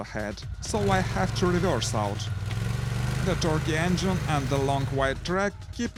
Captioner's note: torquey engine